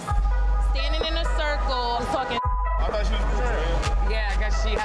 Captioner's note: beeps